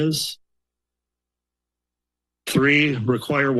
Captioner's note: pause